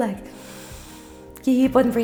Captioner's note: breathing